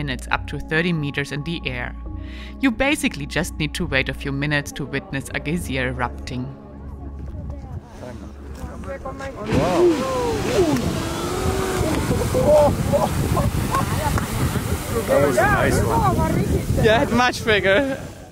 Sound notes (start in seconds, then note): 7.1 crowd chattering; 9.4 geyser erupting; 9.5 crowd exclaiming